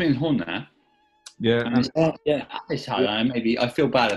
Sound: distorted voices

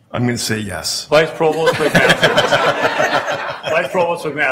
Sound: laughing

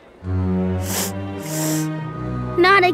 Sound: sniffing

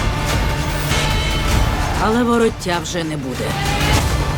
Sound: crowd cheers

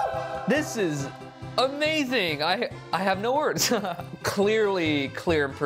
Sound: chuckles

